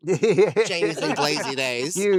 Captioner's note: laughing